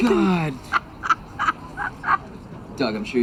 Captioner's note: laughing